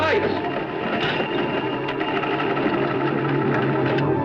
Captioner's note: ship clanking